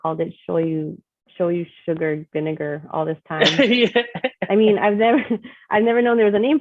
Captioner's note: chef laughing in backgroud